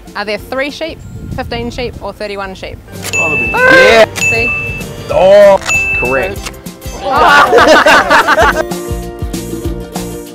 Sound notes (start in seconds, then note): 4.2 ding!; 7.0 laughter